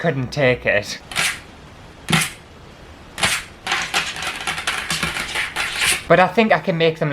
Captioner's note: sexy Nails Scratching The Table Top